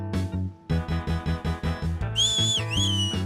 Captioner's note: whistles